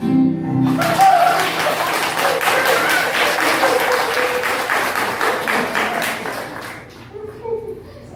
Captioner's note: applause